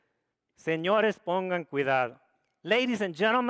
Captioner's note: speaks foreign language